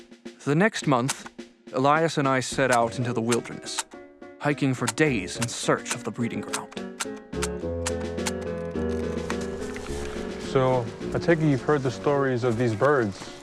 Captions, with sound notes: The next month, Elias and I set out into the wilderness, hiking for days in search of the breeding ground. (Several camera shutter clicks) - So, I take it you've heard the stories of these birds...